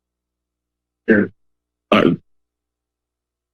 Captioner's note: distorted voice